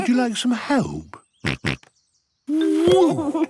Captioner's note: snorts